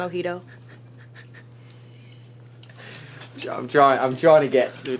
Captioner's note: chuckling